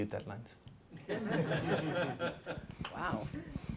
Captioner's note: laughter